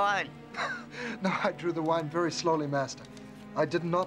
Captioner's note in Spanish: riéndose